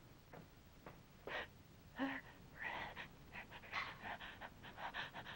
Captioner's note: Bernadette gasping